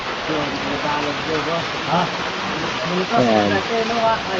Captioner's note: rain pouring